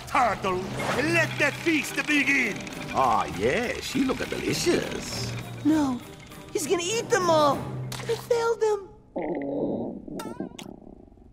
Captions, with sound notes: Let the feast begin. Oh, yes. She look-a delicious. No. He's gonna eat them all. I failed them. [growling]